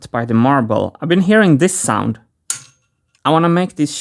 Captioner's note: metallic click